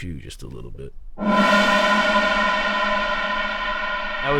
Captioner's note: heavy air whooshing